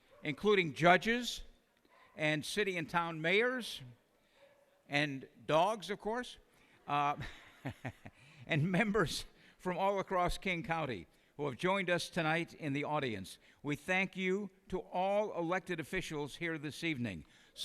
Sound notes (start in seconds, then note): 7.0 laughs